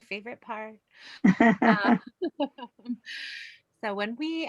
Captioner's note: gentle laughs